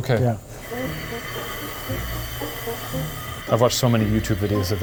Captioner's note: steam hissing; playful music continues